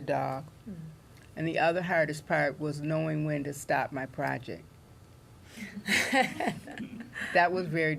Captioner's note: laughter